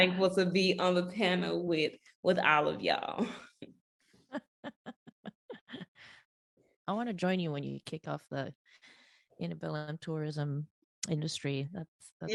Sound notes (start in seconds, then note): 4.3 laughing